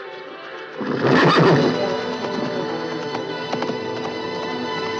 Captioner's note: whinnying